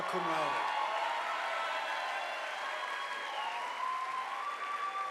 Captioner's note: audience applauding